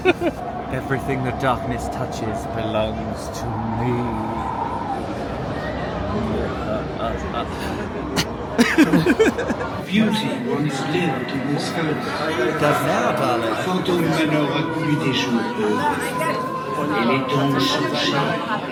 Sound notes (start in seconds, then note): 8.1 coughs; 8.5 laughing; 14.6 Ghost Host speaking in French